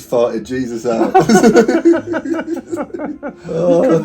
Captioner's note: both laughing